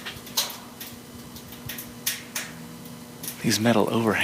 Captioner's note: metal creeks